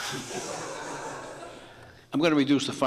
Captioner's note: court laughs